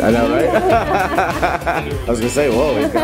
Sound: laughing

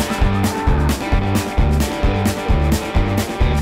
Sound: yelling

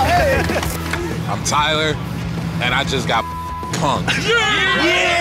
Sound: beep

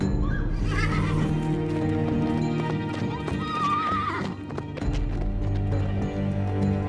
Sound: woman screams in distance; horses neighing, hoofbeats; tense music

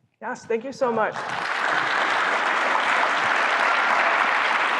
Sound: applause

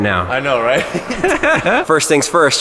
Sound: laughs

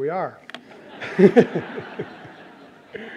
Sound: laughter

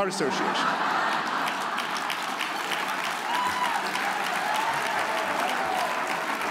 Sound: audience laughs; audience applauds

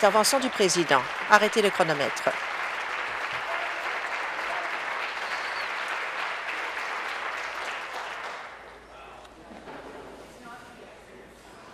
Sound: applause; voice fading

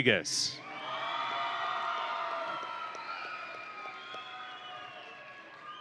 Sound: audience and graduates cheering

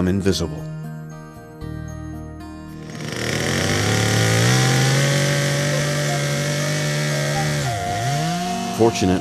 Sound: chainsaw wurring

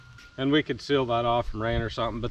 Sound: metal clanking

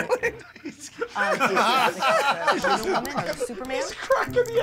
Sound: shell cracking

